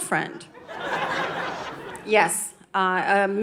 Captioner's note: audience laughing